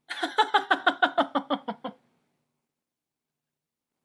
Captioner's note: Nora laughing